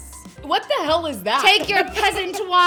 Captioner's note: laughs